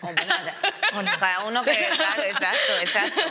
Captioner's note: she laughs